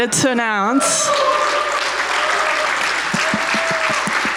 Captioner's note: audience applauding